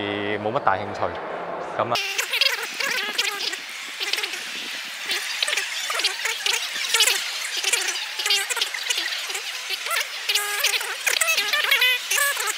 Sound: lots of self-speaking nonsense

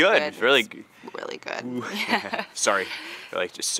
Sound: laughs

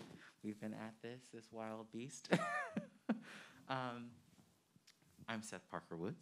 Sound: man chuckling

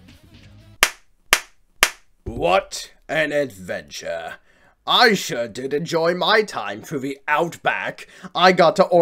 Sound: slow claps

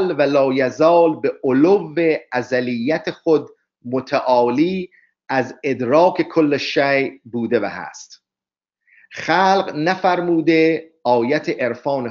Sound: persian reading

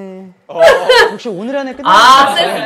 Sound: not crying, just laughing hard

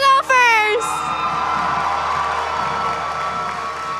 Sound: crowd cheering

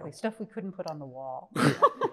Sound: laughs

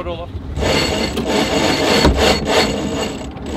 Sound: grinding

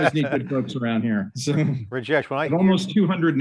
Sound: laughs

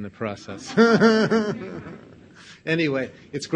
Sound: audience laughs

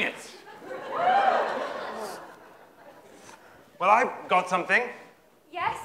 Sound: laughter

